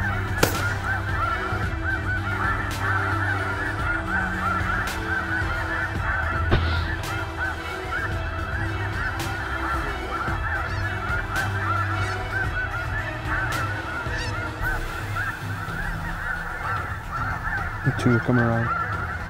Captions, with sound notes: (GUN SHOT) (GUN SHOT) (GOOSE CALLS) >>GOT TWO COMING RIGHT HERE.